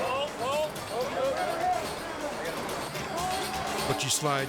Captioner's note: rescuers conversing